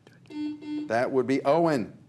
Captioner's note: buzzer buzzes